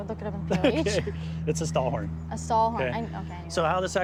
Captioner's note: laughing